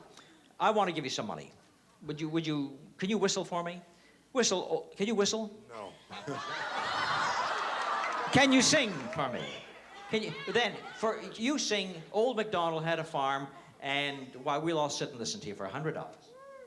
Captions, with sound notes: I want to give you some money. Would you-- can you whistle for me? Whistle-- can you whistle? - No. [LAUGHTER] - Can you sing for me? Can you-- you sing "Old MacDonald Had a Farm," and while we'll all sit and listen to you for $100.